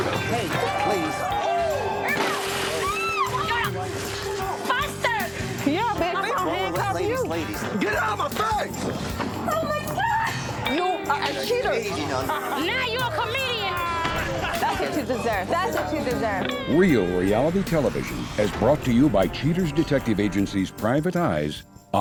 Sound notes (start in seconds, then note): 1.8 shriek; 2.1 crash; 13.8 laughing